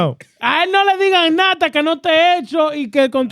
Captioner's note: speaking Foreign Language